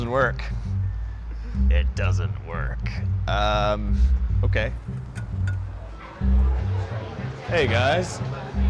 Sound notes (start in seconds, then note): 1.3 in a menacing tone